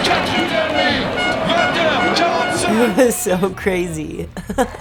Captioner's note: crowd cheers